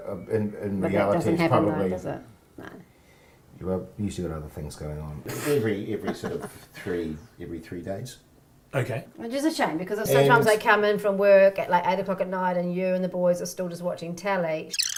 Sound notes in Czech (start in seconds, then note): 5.2 smích